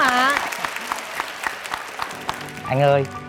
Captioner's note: applause